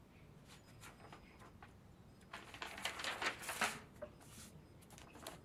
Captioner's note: page rustles